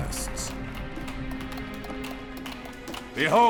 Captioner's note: applause